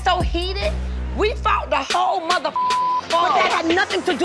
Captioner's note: beep